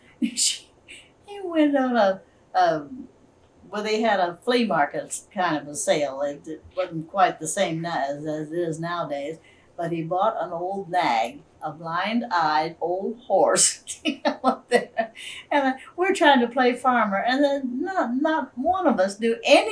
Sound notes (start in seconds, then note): 14.1 laughs